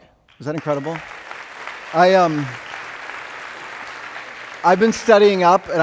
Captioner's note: audience clapping